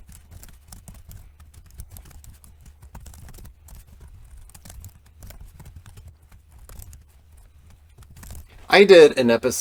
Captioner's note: typing